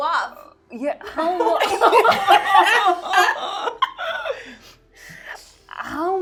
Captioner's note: laughing